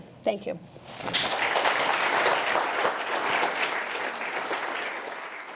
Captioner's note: applause